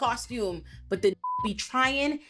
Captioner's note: beep